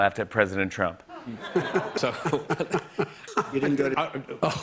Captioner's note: Biden laughing